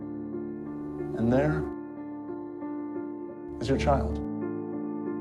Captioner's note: voiceover